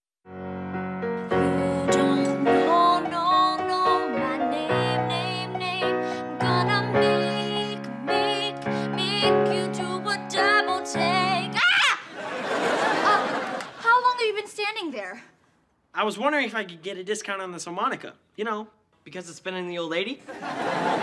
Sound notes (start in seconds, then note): 1.5 piano playing; 11.6 screams